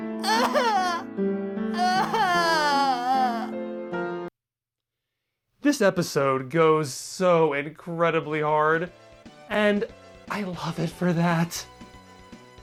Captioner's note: sob